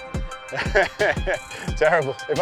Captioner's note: laughs